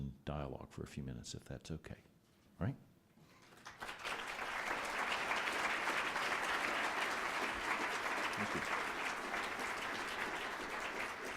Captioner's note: applause